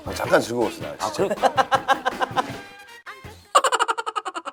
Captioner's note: laughing